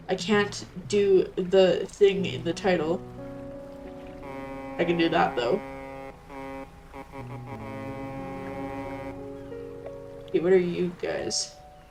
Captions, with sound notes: I can't do the thing in the title. [SFX: Fog horn honking] I can do that, though. Kay, what are you guys?